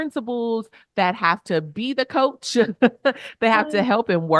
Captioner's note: chuckles